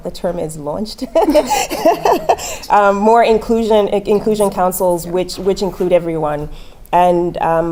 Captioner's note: laugh